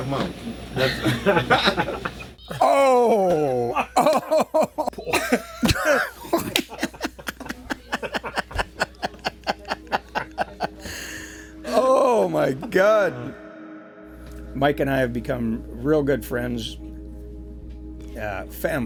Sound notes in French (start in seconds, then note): 0.7 rires